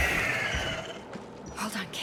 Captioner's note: screaming